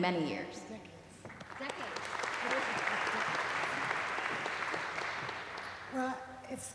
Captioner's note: applause